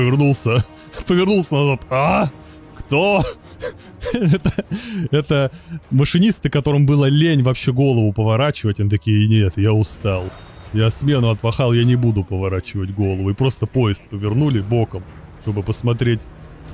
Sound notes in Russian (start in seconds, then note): 4.0 смех